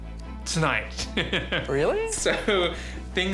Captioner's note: laughs